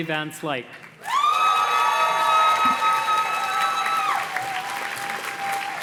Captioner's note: audience cheers and claps